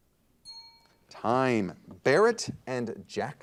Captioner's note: bell rings